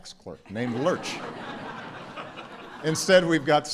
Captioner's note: laughter